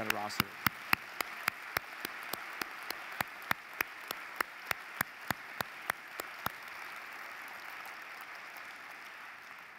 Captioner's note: applause